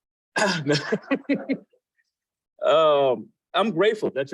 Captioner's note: laughs